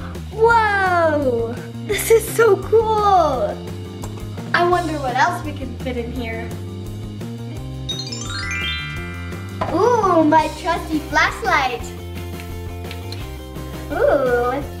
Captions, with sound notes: Whoa, this is so cool! I wonder what else we can fit in here. (magical sound) Cool, my trusty flashlight.